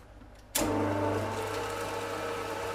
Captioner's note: mixing machine whirring